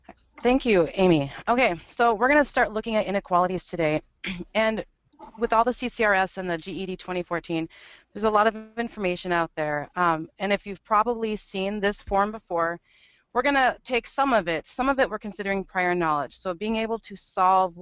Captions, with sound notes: - [Voiceover] Thank you, Amy. Okay so we're gonna start looking at inequalities today and with all the CCRS and the GED 2014, there's a lot of information out there and if you've probably seen this form before, we're gonna take some of it, some of it we're considering prior knowledge, so being able to solve